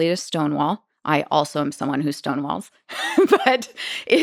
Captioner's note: laughing